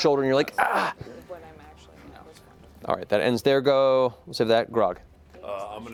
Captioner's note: grunts